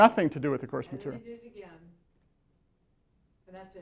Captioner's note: voiceover